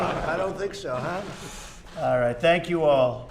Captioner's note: laughter